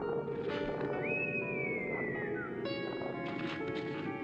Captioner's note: whistling continues